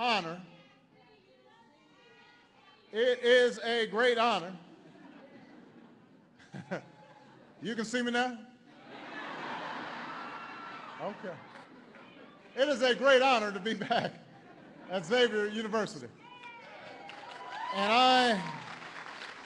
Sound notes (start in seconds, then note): 4.7 laughter; 9.5 laughter; 16.3 applause